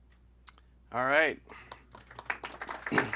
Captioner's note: applause